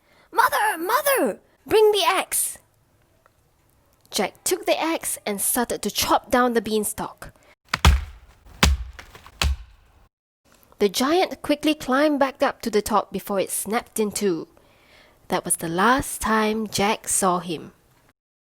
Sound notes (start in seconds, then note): 7.7 chopping wood